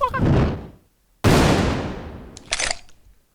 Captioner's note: laughing; explosion